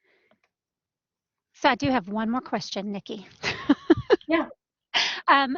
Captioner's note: laughter